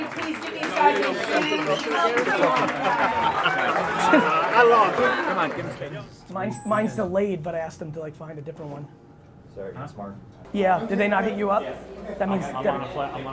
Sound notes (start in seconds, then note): 2.2 crowd clamoring